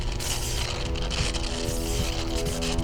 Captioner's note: crackling of electricity